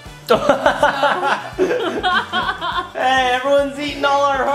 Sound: laughing

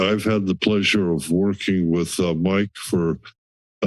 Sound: laugh

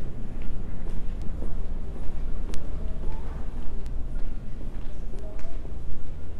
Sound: footsteps, muffled background voices

